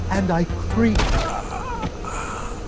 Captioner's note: gunshot, screaming